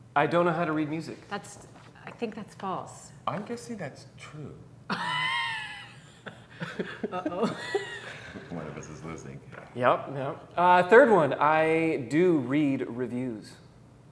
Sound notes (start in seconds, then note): 4.9 chuckles